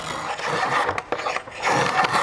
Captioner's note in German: Schabende Laute